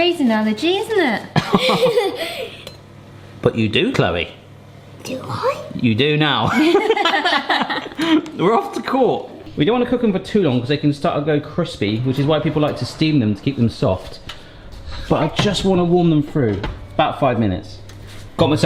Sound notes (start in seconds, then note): 1.4 laughing; 6.5 laughing